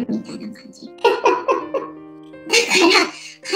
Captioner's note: laughs